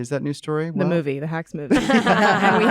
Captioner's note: laughter